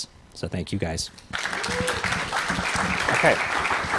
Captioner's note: cheering applause